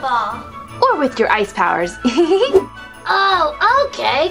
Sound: giggles

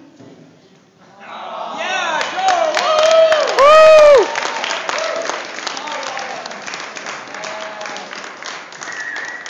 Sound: applause, whistles

